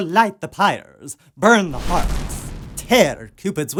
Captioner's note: crackling